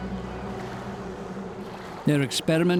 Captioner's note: boat motor rumbling